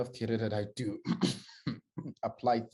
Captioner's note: clears throat